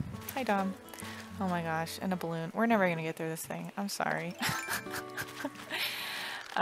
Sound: laugh

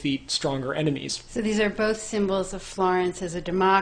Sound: voiceover

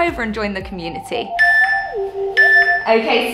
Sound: timer beeping

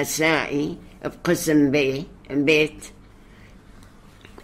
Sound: in Hebrew

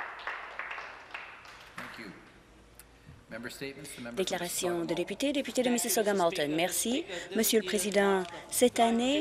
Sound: some Applause

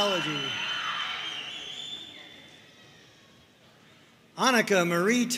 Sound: audience cheering

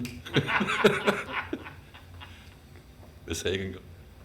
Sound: all laugh

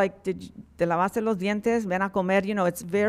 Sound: speaking in Spanish

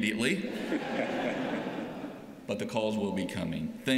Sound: laughter

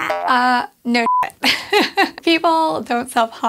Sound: beep

